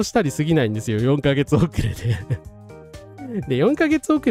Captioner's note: laughter